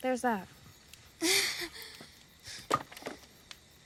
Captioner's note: chuckles